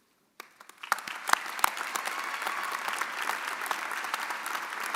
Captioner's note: audience applauding